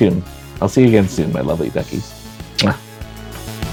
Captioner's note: muah